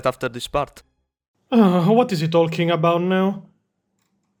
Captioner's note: sigh